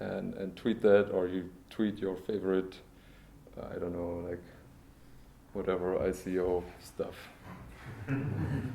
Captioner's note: laughter